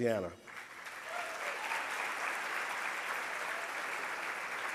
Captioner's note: audience applause